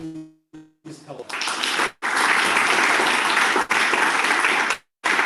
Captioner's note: applause